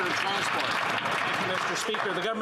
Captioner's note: applause